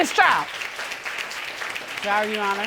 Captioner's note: applause